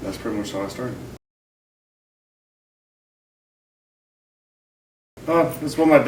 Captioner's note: silence